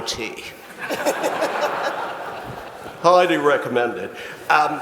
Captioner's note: audience laughs